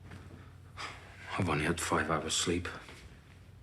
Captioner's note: he exhales